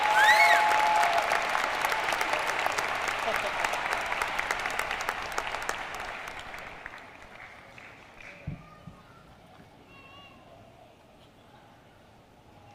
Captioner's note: cheers and applause